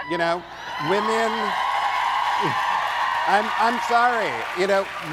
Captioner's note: audience cheering